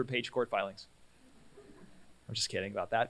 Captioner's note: laughter